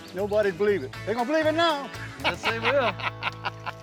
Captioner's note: laughing